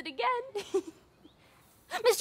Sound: giggle

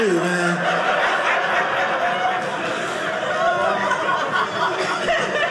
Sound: audience laughing

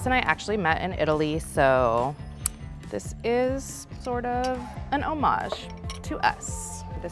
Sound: tuts

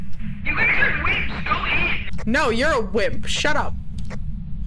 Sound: over Radio

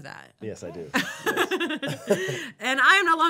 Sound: laughing

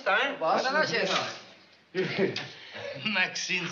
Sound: speaking spanish

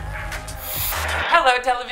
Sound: slow music; static crackling

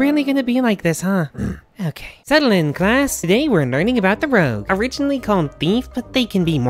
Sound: sigh

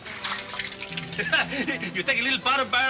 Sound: chuckling

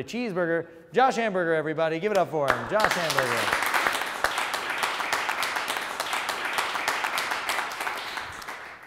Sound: applause

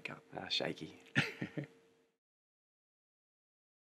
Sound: chuckles

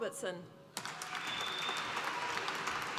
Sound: applause

